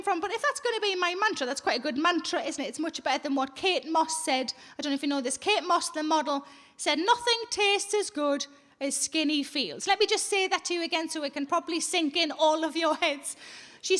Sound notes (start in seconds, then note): none